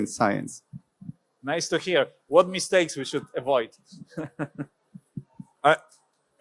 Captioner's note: laughs